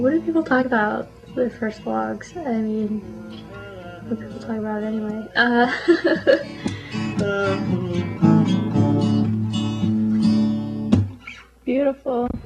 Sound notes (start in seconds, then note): 5.3 laughs; 7.2 guitar music